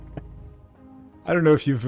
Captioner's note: laughs